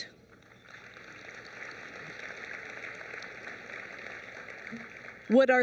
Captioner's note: applause